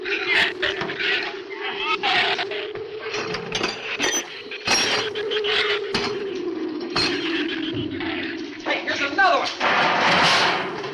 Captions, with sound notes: (wind howls) (shrews snarl) - Hey, here's another one!